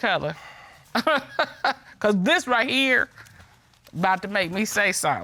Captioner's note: chuckles